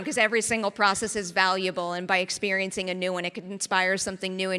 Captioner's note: none